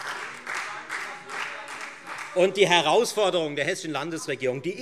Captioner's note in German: Beifall Freie Demokraten, SPD und vereinzelt DIE LINKE